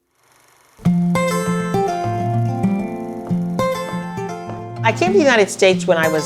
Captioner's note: film projector sound; soft music